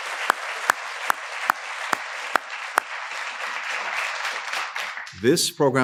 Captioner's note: applause